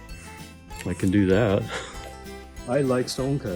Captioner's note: laughs